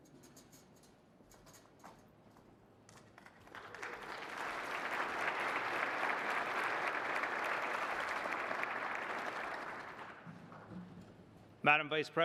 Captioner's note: applause